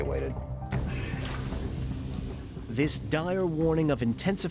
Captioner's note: air rushing through hose